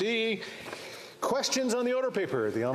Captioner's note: speaking French